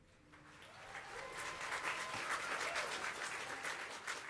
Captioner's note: crowd applauding